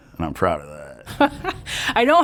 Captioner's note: laughs